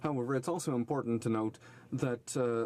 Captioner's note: speaking in french